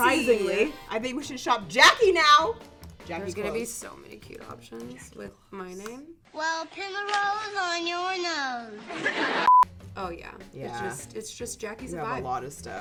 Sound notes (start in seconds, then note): 8.8 sitcom laughing; 9.4 beep